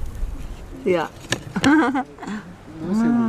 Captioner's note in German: Kichern